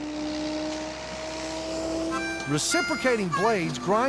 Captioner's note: grinder whirring